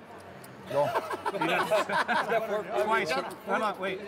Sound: laughs

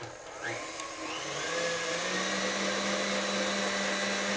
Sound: mixer whirs

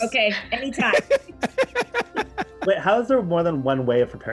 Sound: laughs

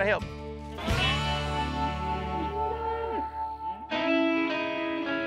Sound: mooing

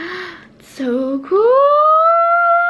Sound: gasps

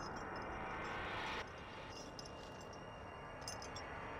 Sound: chain rattling

